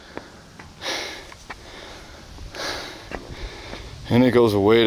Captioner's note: breathing heavily